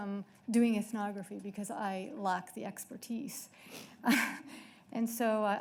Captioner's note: laughs